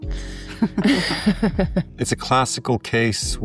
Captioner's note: both laughing